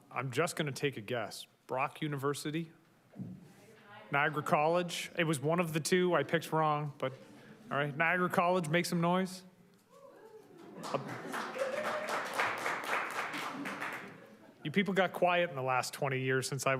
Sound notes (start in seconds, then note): 10.0 attendees softly cheer; 10.5 attendees applaud